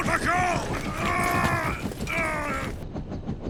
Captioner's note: grunting and straining